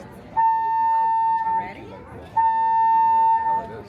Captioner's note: alarm sounds